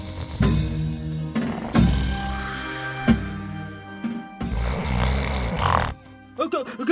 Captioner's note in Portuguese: Odorico roncando